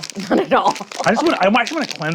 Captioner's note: laughs